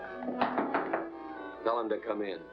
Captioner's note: knocking on door